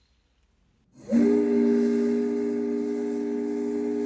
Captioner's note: boat horn blaring